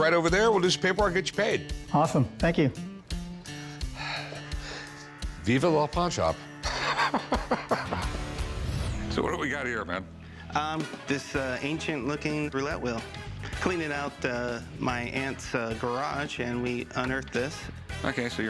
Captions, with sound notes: We'll do some paperwork, get you paid. - Awesome, thank you. [upbeat music] - Viva La Pawn Shop. [chuckles] So what have we got here, man? This ancient looking roulette wheel. Cleaning out my aunt's garage, and we unearthed this. OK.